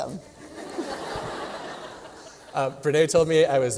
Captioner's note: laughter